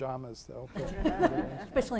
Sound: laughing

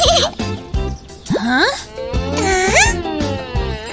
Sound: giggling

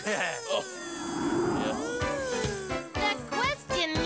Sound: buzzing

